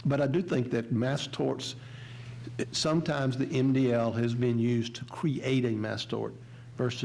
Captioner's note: none